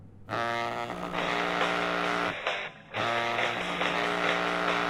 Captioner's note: cell phone ringing